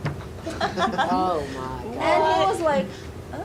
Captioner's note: laughing